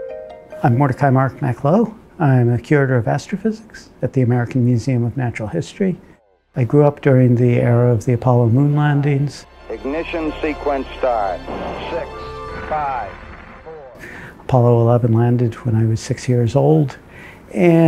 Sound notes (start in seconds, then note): 9.9 Audio from Apollo 11 launch